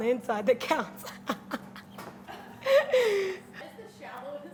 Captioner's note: laughs